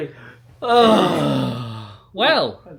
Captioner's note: both sigh dramatically